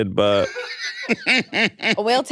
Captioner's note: laughs